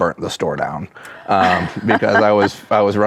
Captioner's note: laughs